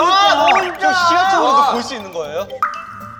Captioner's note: the building owners complaining